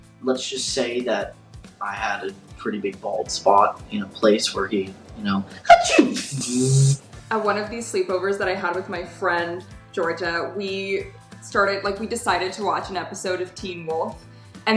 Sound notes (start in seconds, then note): 5.6 sneezes; 6.1 buzzes